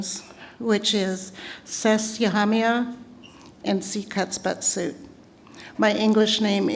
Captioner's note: non-english speech